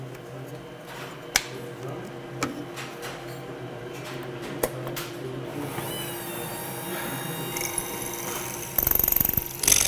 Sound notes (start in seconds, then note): 5.5 high humming noise; 8.7 drilling noise